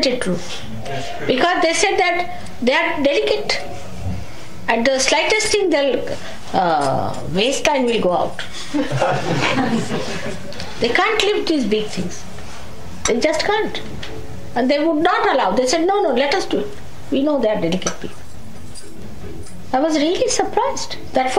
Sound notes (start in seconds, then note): 11.6 laughter